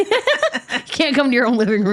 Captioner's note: laughing